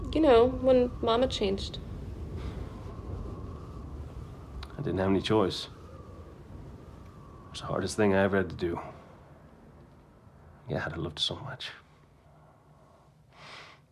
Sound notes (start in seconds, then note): none